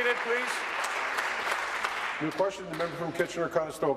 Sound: applause

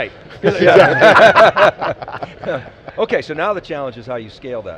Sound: laughing

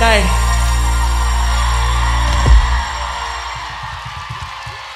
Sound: audience cheering

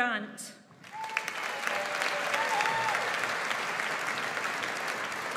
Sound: audience applauds

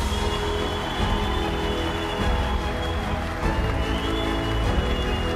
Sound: cheering and applause; triumphant music

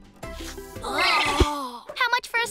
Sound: disgusted groans

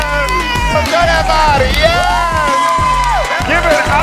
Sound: cheers

